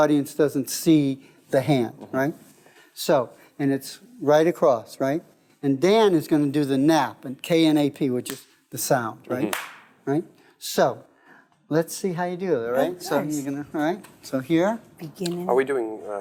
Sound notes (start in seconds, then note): 9.4 slapping sound